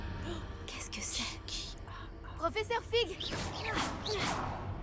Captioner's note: noise of Jason from Friday the 13th